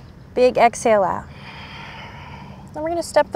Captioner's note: blows out breath; takes deep breath